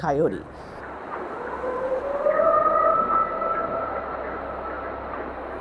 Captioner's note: animal howling